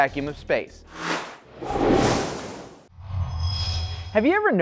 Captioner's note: sound Effects